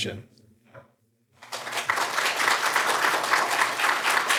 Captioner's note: applause